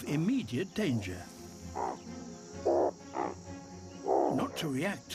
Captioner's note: series of short grunts